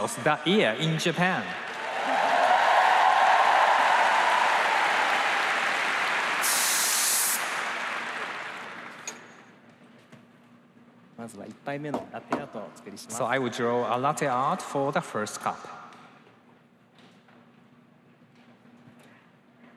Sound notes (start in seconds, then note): 8.9 cheers and applause